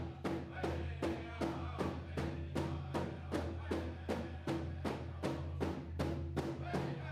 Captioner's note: none